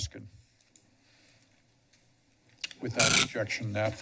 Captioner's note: pause